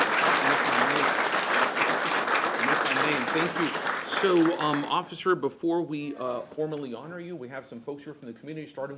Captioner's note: applause